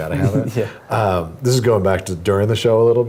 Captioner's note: laugh